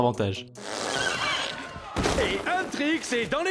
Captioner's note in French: Grincement